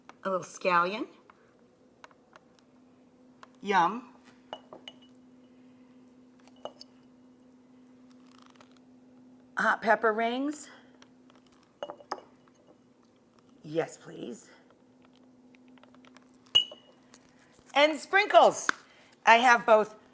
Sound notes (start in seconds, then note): 4.5 bottle clinks; 11.8 bottle clinks; 16.5 bottle clinks